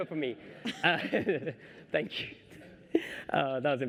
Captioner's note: laughter